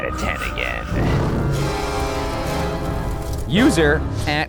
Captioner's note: dramatic music; fire crackling